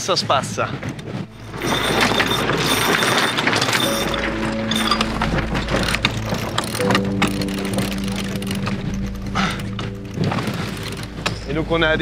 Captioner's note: boat roaring